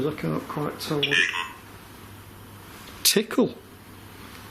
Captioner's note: puck speaking